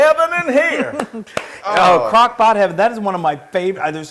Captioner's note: laugh